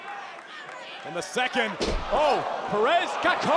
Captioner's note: body thudding